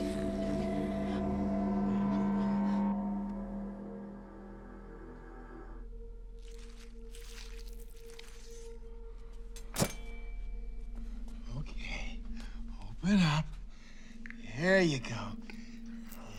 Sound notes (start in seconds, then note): 0.1 mysterious music; 6.3 flesh squelches